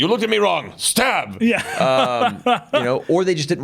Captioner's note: laughing